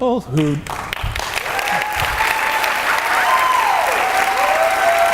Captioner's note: audience cheering and clapping